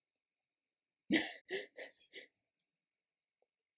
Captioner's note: laughter